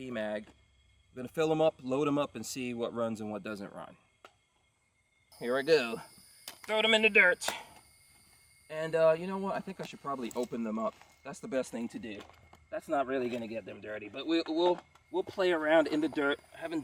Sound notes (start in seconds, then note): none